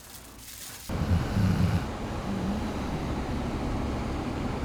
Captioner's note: El Lobo snoring